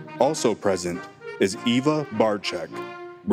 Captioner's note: none